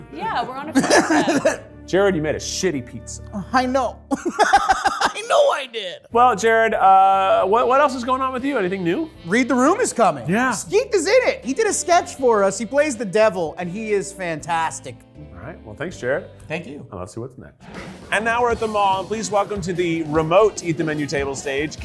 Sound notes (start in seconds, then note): 4.1 laughs